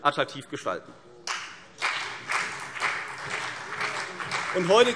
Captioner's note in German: Beifall CDU und vereinzelt BÜNDNIS 90/DIE GRÜNEN